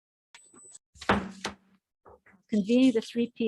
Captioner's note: gavel bangs